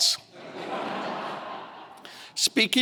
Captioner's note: audience laughing